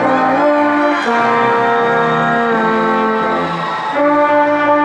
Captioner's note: crowd cheering and applauding